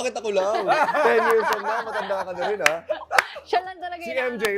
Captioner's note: laughter